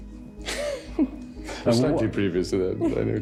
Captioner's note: laughs